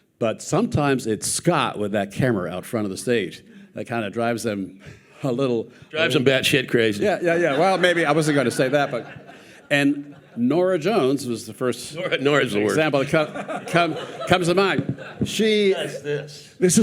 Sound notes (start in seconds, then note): 7.1 audience laughing